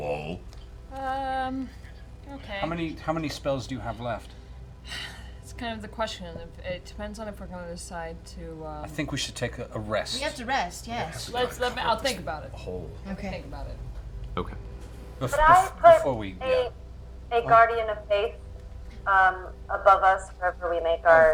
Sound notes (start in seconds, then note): 4.8 sighs